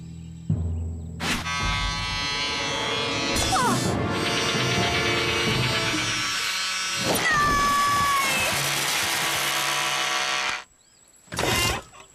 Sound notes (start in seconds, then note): 1.3 buzzing; 9.9 buzzing stops